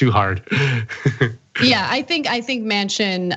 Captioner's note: laugh